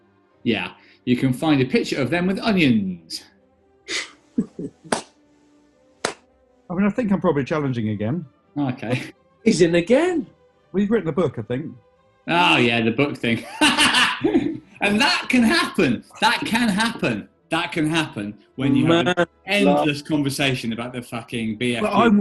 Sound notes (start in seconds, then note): 4.4 chuckles and claps; 13.1 laughing